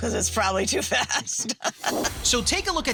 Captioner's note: laughing